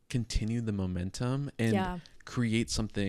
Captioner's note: none